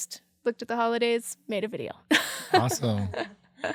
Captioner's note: laughs